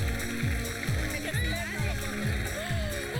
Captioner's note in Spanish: aplausos